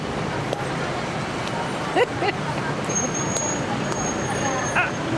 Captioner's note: laughing